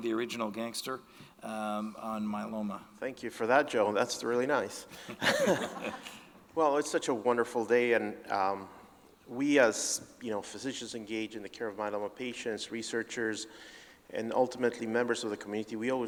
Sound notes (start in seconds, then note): 4.9 chuckles; 5.1 audience laughing